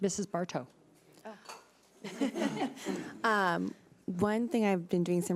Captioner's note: laughing